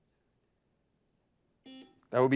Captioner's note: buzzer buzzes